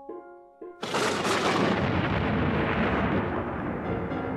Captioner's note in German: Blitz und Donner